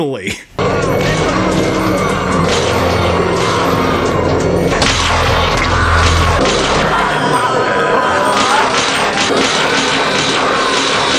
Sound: goblins being horribly murdered sounds

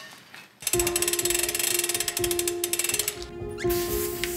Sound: food sizzling; gears winding; climactic melody

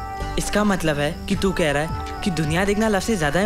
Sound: none

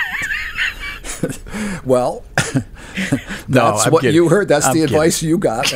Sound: laughing

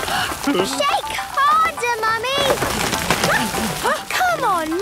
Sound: all groaning; exclamations

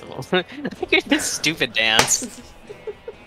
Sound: laughs

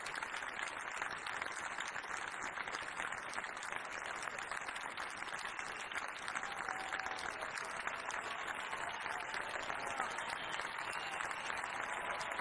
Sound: applause

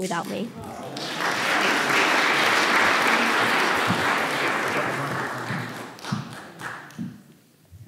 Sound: applause

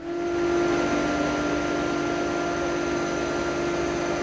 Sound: machine noise

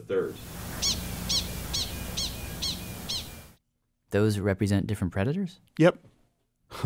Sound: prairie dog chirping

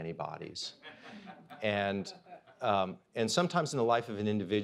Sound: audience laughs

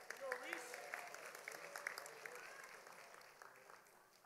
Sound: audience applauding

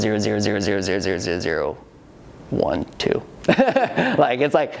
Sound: laughs

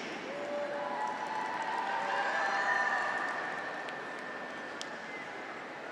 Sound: graduates cheer; audience applauds

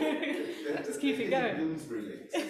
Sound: laughing

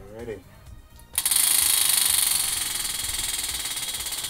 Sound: wheel clicking

